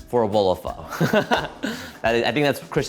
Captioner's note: laughs